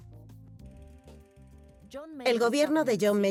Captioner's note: projector whirring